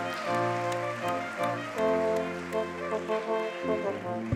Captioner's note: audience clapping